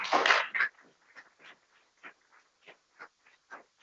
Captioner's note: people clapping